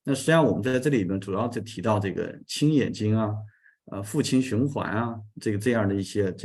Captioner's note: continues to speak in Chinese